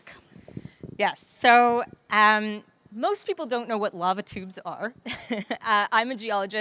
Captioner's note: chuckles